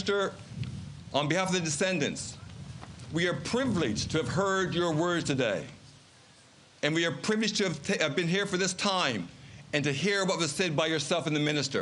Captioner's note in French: Voix en Anglais